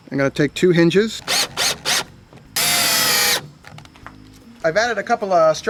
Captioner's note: drill drilling